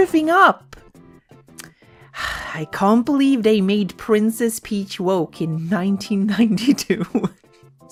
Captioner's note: sigh; laughs